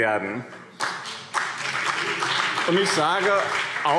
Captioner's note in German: Beifall BÜNDNIS 90/DIE GRÜNEN und CDU